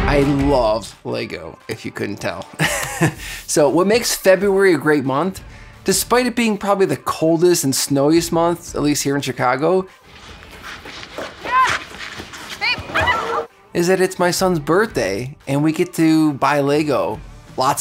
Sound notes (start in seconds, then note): 10.0 ice skates scraping; 11.4 skaters shouting